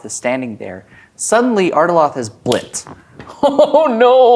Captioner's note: snaps